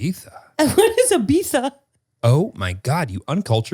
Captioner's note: laughs